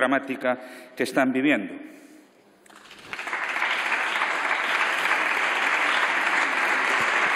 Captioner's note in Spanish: Aplausos